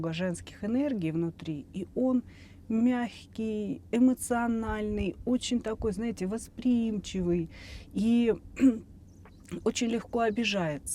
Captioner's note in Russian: откашливается